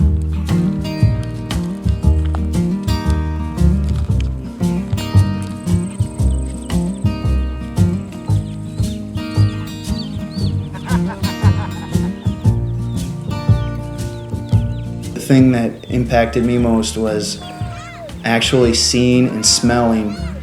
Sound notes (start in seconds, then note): 8.2 chicks peeping; 12.2 laughing